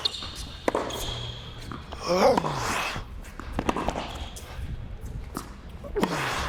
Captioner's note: grunting; popping from ball contacting tennis racket